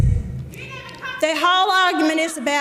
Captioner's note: audience member yelling